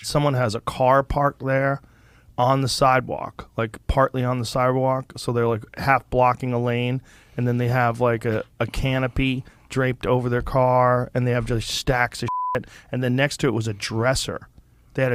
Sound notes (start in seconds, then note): 12.2 beep